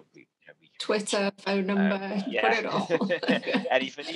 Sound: laughs

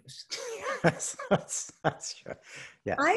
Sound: chuckling

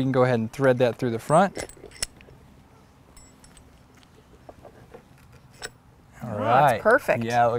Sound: low pitched rattling of metal bolts through wood holes, no additional audio

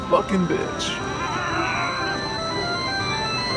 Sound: anger noises

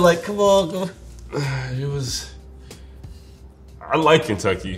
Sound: sighs

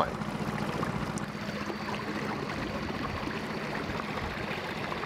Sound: boat engine revving

